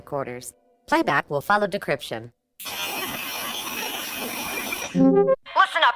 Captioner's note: static, transmission-start noise